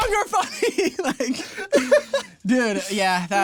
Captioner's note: laughing